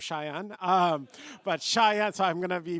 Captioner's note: laughter